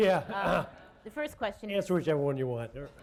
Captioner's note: laughter